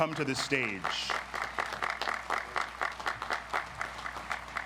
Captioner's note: audience applauds